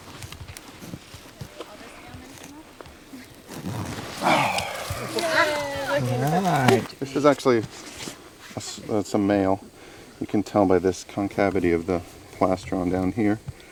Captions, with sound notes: (faintly speaking) (cheering) - This is actually, it's a male. You can tell by this concavity of the plastron down here.